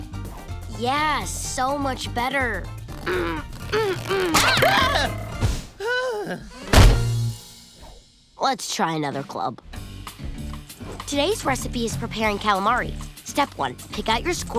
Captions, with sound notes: Yeah, so much better. [grunting] [screaming, groaning] Let's try another club. Today's recipe is preparing calamari, step one, pick out your squid.